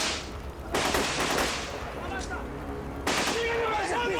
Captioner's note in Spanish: Tiroteo